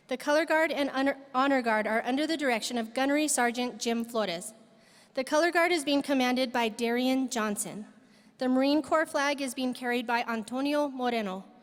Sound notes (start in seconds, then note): none